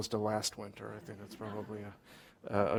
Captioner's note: laughter